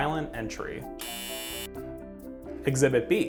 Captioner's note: buzzer